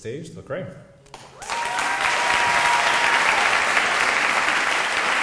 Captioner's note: audience applauding